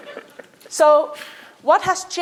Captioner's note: laughter